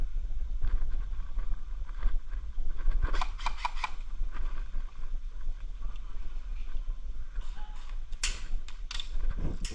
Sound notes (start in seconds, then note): 3.2 no more bullets sound